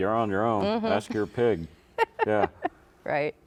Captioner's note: laughs